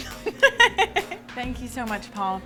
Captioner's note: laughter